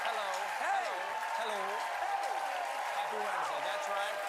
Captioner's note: cheers and applause